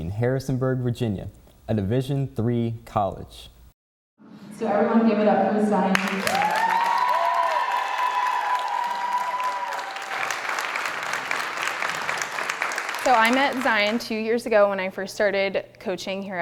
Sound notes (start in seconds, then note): 5.9 audience cheering